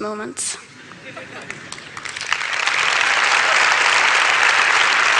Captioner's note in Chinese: Laughter; 笑聲; Applause; 掌聲